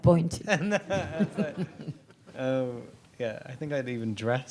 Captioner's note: audience laughs